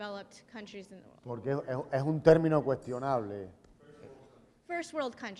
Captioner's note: speaking in Spanish